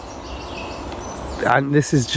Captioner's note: birds chirping